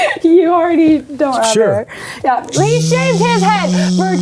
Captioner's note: buzzing noises